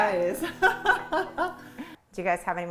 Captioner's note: laughing